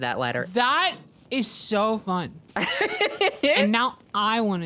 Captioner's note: laughs